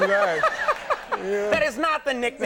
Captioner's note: Conan laughing